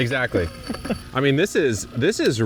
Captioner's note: laughing